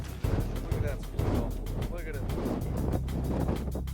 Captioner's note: wind blowing